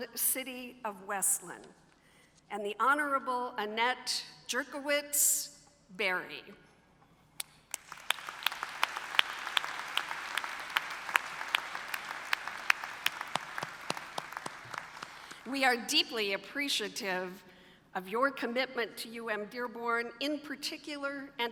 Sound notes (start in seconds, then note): 7.6 applause